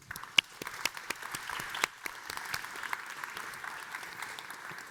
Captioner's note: audience members clapping